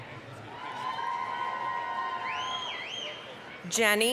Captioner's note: applause, cheering